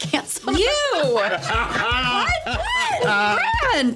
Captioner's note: laughing